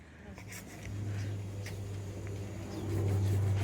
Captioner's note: cutting sounds